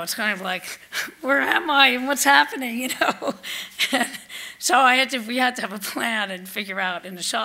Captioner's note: laughs